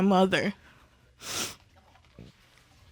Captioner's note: sniffles